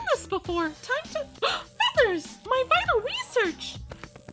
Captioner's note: gasp